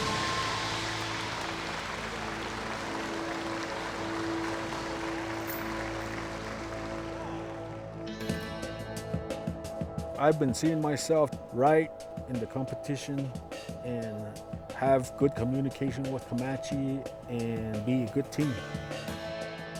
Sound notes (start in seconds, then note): 5.1 cheers and applause